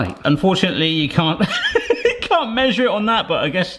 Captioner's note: chuckles